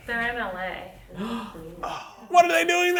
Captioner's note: gasps